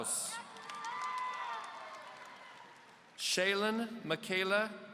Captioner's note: audience cheering